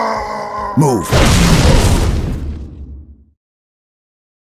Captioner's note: epic grav-hammer smashing noob sound; silent pause of comprehension